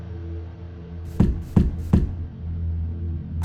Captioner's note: knock knock knock